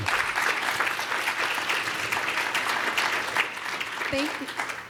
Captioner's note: applause